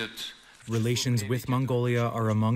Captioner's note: through translator